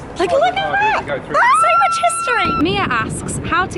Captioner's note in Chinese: 尖叫